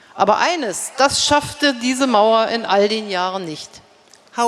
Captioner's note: speaking in German